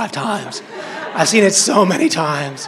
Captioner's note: crowd laughing